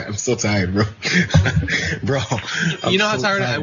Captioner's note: laugh